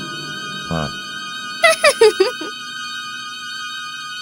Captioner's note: makes an evil grin & giggles